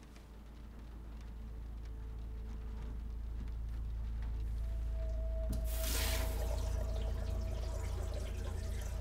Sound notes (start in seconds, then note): 3.7 eerie music; 5.6 water gurgling